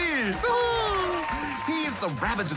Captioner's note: laughs